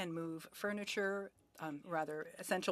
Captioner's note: speaking French